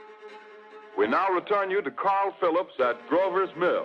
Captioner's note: radio Announcer